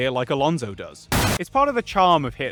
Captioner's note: crash into safety barrier